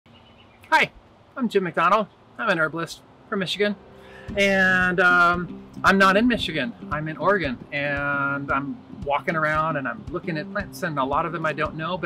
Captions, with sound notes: (birds chirp) Hi, I'm jim mcdonald. I'm an herbalist from Michigan. (uplifting music) And I'm not in Michigan. I'm in Oregon, and I'm walking around and I'm looking at plants and a lot of them I don't know,